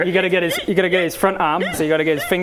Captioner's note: squeak squeak squeak